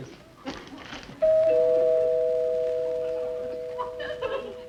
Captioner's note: door bell dings